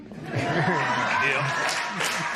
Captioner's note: laughter